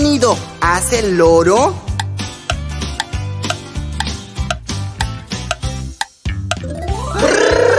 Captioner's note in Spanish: Sonido de reloj